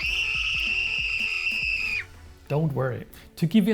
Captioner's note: scream!!!